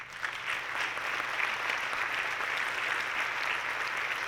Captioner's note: audience clapping